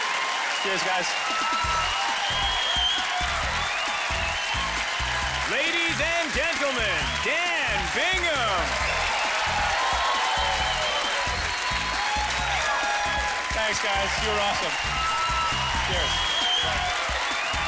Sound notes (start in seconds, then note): 1.2 cheering and applause; 7.8 applause